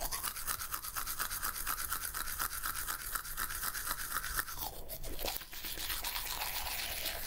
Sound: teeth brushing sounds; still teeth brushing sounds

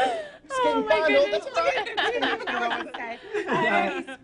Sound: laughs

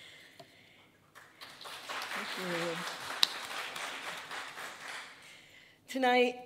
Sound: audience applauding

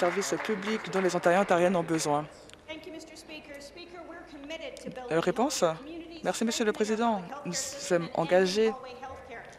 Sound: applause

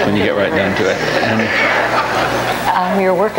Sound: audience laughs

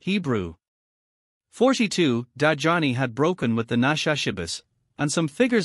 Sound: Hebrew

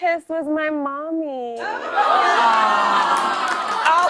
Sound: audience aws

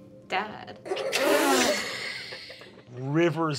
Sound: Kristen snickers

